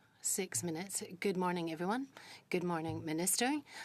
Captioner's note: speaking French